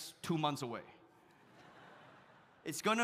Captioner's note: audience laughs